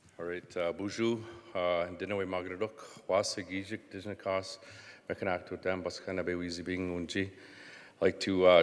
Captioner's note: speaking Indigenous language